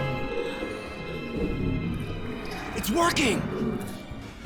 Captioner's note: beastly groaning